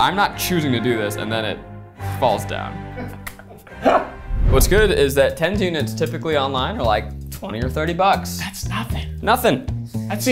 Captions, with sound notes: and I'm not choosing to do this. And then it falls down. (laughing) What's good is that tens units typically online are like 20 or 30 bucks. - That's nothing. - Nothing.